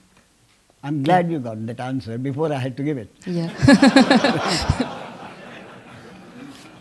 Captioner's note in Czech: smích